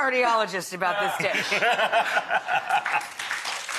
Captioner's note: chef laughs; audience claps